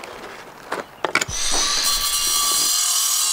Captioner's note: saw noise